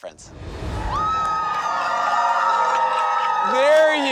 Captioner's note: crowd cheering